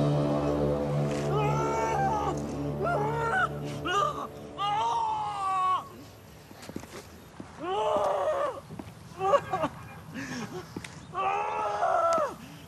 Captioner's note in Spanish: Gritos